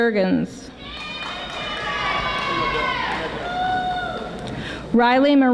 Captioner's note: audience applauding